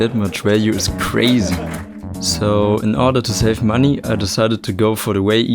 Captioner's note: crowd laughing